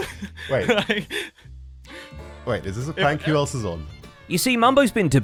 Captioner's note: laughs